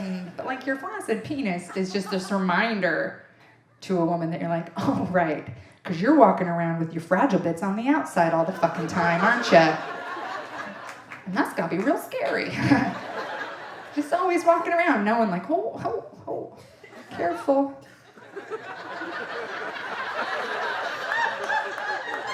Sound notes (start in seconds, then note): 17.9 audience laughing